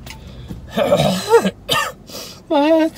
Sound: coughs; clears throat

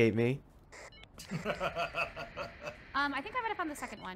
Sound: laughing

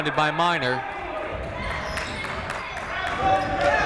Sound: shouting

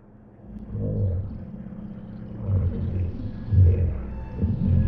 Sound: ominous gurgling

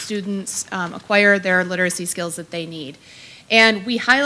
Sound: none

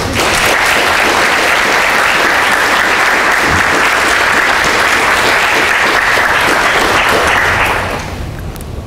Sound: applause

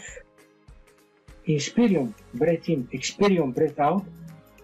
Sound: breathe in; breathe out

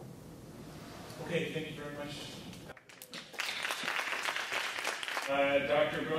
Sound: audience clapping

